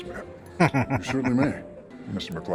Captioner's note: chuckling